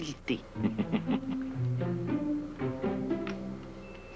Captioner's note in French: Rire